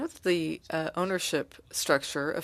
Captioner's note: speaking French